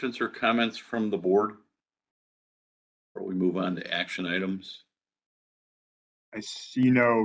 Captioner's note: A pause